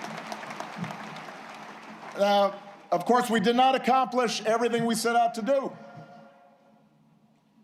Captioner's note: applause